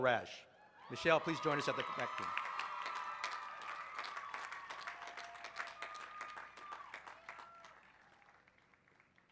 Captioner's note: applause